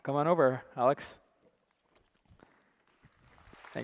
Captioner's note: applause